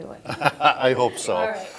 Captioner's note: laughs